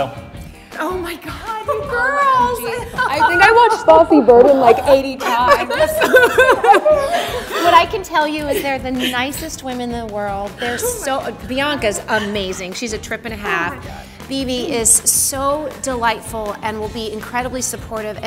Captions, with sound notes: - So. - Oh my god. - God you girls. - I think I watched "Fosse/Verdon" like 80 times. (laughing) - What I can tell you is they're the nicest women in the world. They're so, Bianca's amazing. She's a trip and a half. Bebe is so delightful, and will be incredibly supportive.